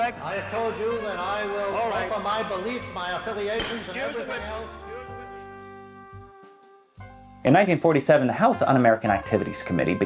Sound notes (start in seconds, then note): 3.5 gavel bangs